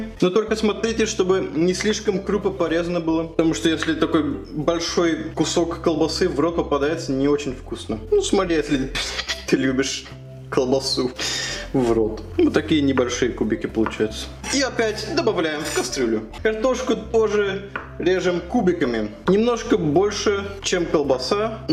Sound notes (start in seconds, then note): 8.9 giggles like a mature human being